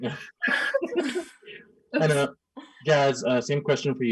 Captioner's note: laughing